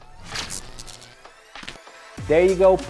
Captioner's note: electricity static crackling